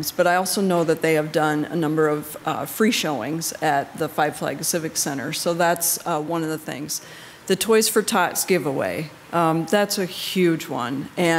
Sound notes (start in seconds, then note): none